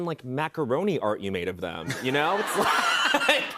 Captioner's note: laughter